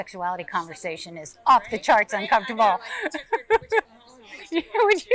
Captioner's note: laughs